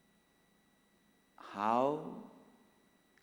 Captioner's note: hindi